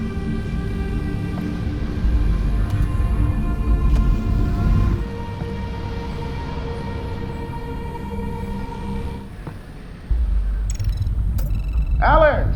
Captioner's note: upbeat music; phone ringing